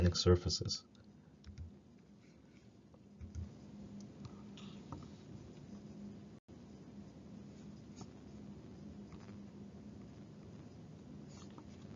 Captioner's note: silence